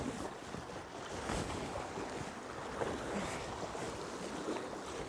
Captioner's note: water rushing